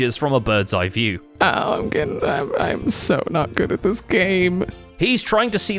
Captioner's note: mutters